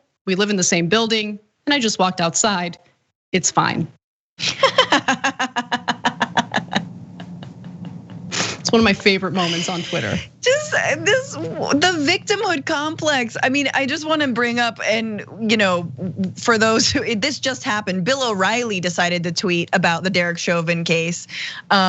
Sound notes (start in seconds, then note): 4.4 laugh